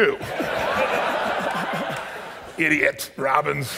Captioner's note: audience laughs